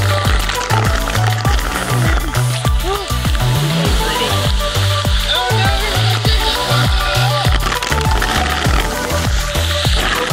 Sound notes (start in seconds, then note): 0.2 splattering; 3.8 upbeat music; 6.3 splattering